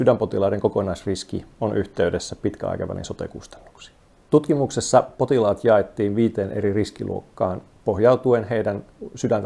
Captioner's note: speaking in foreign language